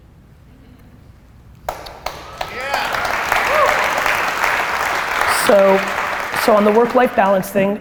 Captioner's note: applause